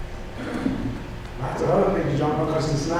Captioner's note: clearing throat